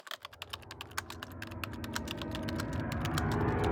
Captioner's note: typing